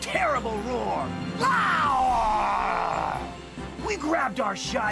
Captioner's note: growls loudly